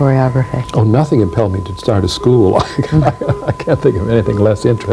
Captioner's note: laughs